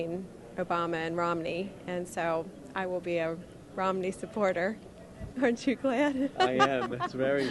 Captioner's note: laughter